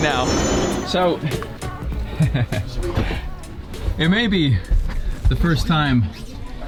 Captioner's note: laughs